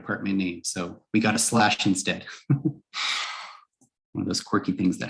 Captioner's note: brief laughter